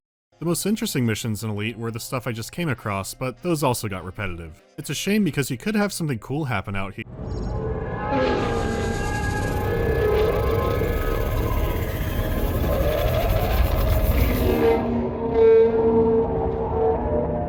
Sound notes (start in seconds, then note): 7.3 rattling, screeching wail